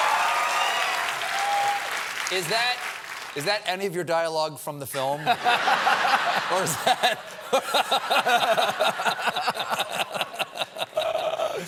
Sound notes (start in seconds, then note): 0.0 cheers and applause; 5.2 laughter